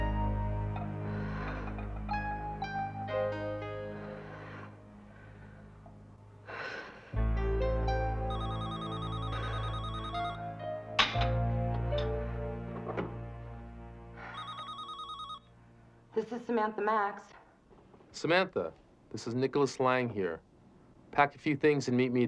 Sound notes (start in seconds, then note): 0.8 breathing heavily; 8.2 phone ringing